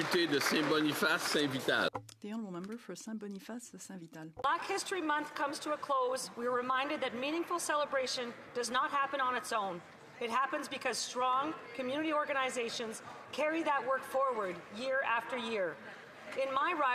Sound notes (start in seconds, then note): 6.4 speaking French